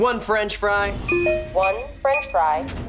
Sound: beeping

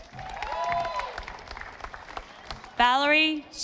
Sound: audience applauding

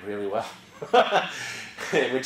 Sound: laugh

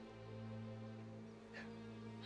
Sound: whispering

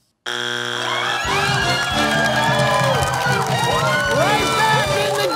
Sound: buzzer sounds; cheering

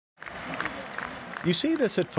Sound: crowd cheering

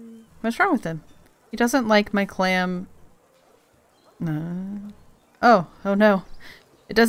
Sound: unsure hum

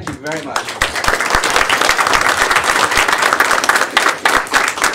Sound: applause

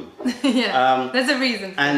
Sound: laughter

